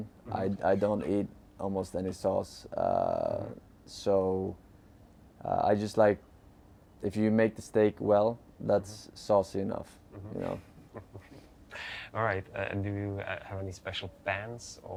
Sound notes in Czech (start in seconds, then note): 10.1 chuckles